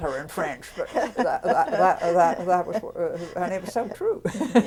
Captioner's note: laughter